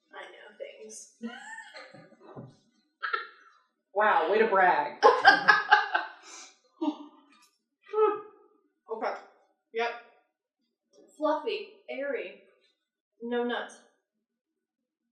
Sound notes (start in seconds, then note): 1.2 laughs; 4.1 sarcastically; 5.0 laughter